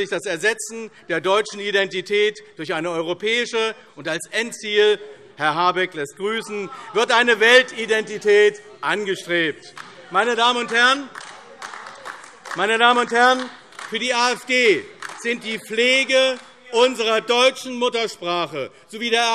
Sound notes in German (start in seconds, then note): 9.6 Beifall AfD - Zurufe CDU, BÜNDNIS 90/DIE GRÜNEN und SPD